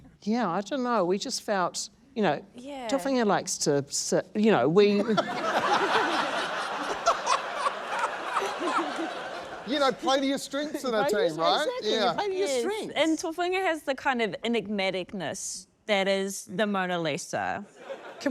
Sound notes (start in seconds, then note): 5.0 laughter